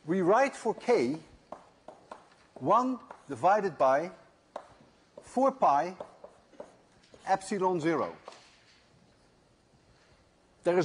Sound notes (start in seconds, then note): none